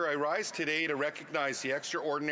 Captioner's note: speaking French